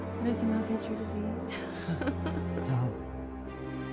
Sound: chuckles

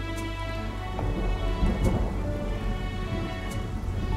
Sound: thundering

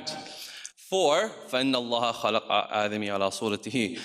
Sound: speaks in foreign language

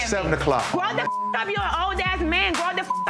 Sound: beep

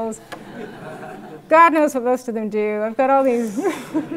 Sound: laugh; laugh

